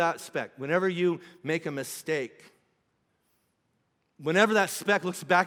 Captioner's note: none